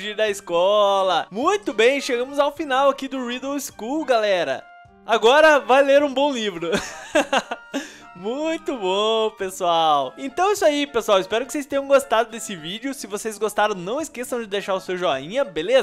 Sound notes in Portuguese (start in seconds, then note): 6.7 risos